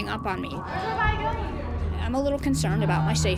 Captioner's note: inmates arguing